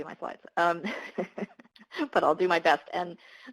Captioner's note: laughs